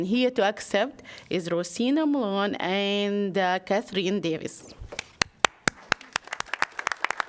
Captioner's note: applause